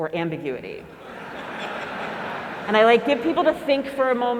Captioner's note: laugh